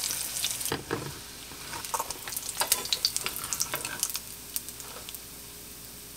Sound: sizzle

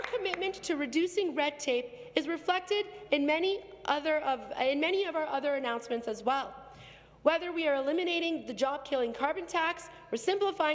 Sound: some Applause

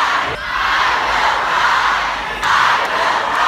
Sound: audience Chant

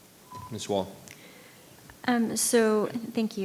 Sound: microphone beeping

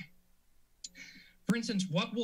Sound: clears throat; clicks tongue

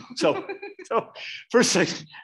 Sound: both laughing

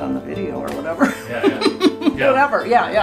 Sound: laughing

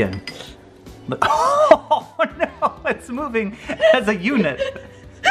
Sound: laughs; laughs

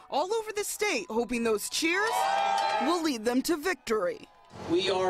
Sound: cheering

